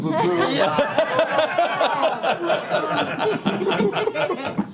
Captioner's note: laughter